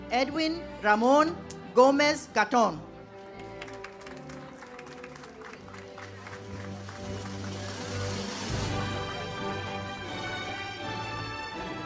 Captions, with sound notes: - Edwin Ramon Gomez Gaton. (audience applauds) (uplifting music)